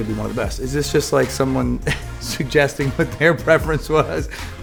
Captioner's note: laughs